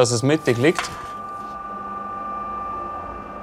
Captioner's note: quiet mechanical whirring